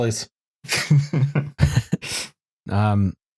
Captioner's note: laughter; laughs